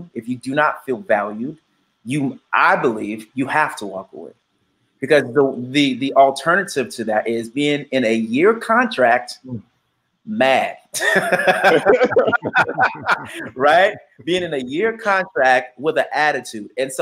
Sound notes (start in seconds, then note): 11.0 laughing